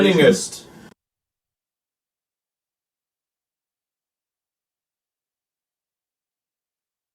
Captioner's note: audio cuts out of nowhere, silence